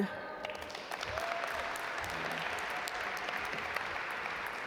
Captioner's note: audience applaud